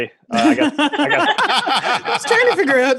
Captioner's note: all laughing